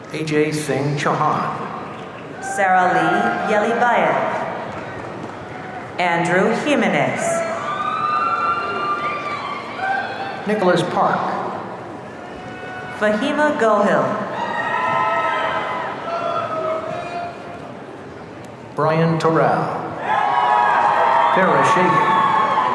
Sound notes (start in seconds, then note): 6.2 audience cheering; 14.2 audience cheering